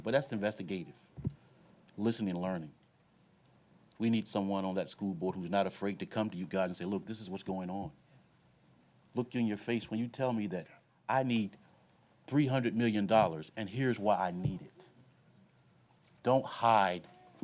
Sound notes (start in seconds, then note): none